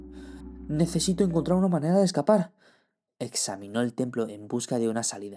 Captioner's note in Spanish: Tono Nervioso